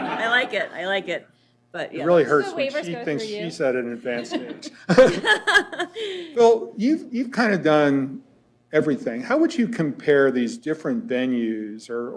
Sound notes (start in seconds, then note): 4.0 laughter